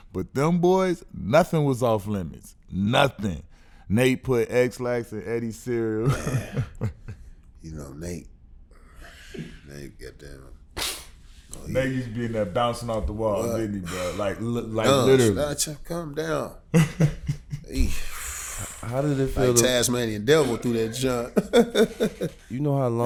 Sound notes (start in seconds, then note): 5.8 laughs; 10.8 sniffs; 15.4 murmurs; 16.6 laughing; 21.6 laughs